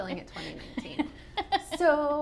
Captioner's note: laughs